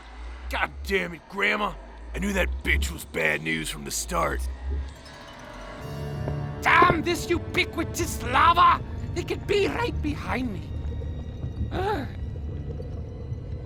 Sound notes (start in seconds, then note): 11.7 Gaylord_Steambath gasps